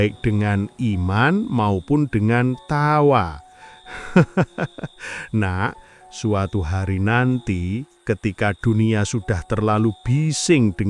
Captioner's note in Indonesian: tertawa